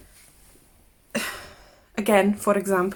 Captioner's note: sighs